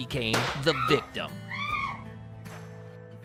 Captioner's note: woman screaming